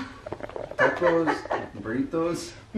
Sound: laughter

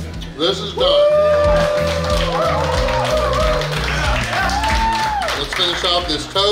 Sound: cheering & Clapping

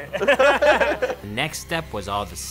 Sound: both laugh

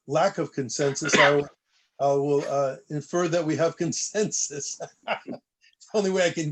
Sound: laughter

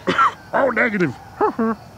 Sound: coughs

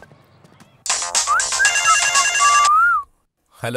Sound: phone rings

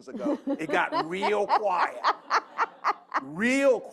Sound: laughter

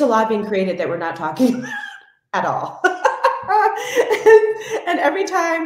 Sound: laughs

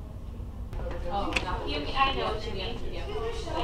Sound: indistinct chatter

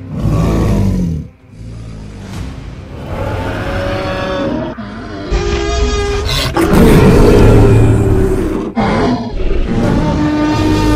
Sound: grunting and growling

